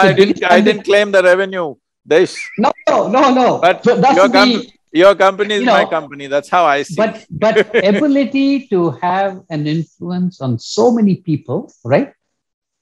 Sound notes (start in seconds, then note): 6.6 laughs